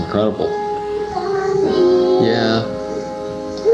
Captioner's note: child voice